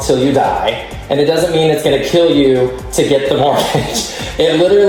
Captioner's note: chuckles